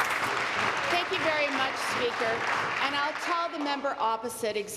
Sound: applause

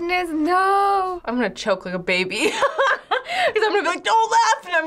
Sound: laughs

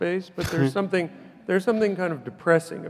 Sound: laughs

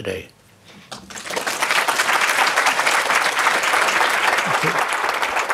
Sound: audience applauding

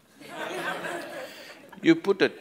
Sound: audience laughs

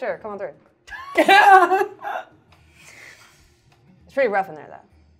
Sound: laughs

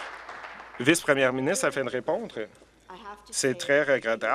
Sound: applause

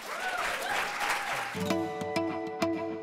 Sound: applause

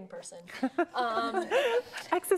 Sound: laughter

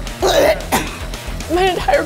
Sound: gags

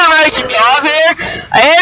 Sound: gasp

